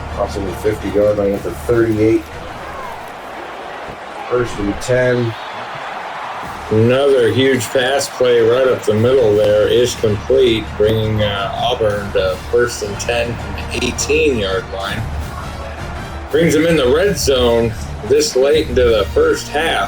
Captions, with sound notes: Possibly 50 yard by the end of 38. [Crowd Noises] First through 10. [Crowd Noises] Another huge pass play right up the middle there is complete,